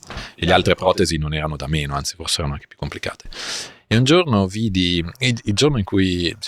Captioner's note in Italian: sbuffare